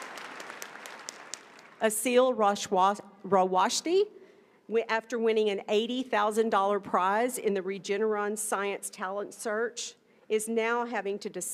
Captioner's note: applause